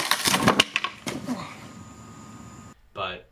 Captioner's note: cracking wood